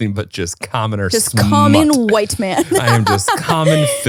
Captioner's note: laughs